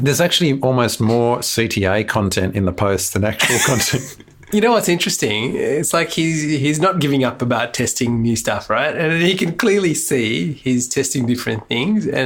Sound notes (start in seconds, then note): 3.4 both laugh